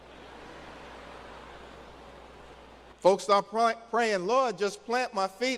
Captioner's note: laughter